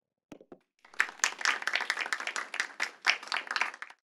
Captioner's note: all applauding